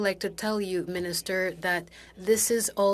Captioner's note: speaking FRENCH